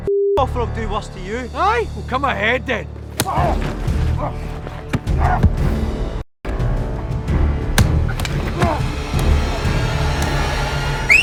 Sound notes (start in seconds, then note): 3.1 smacking; 4.8 bashing; 7.8 bashing; 9.7 tense music